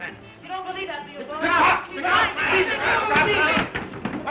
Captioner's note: all shouting